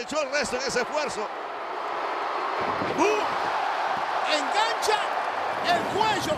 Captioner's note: applause